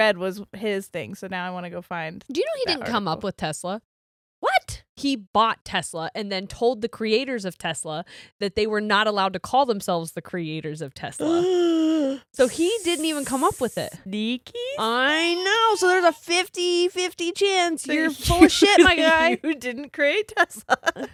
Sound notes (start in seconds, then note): 11.5 gasps; 18.1 giggles